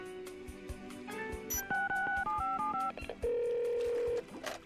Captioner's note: dialing; telephone ringing